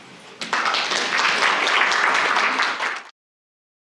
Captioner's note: audience applause